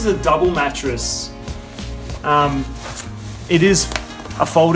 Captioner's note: mattress ruffling